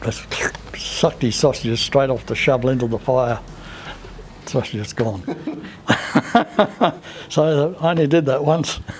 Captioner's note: laughter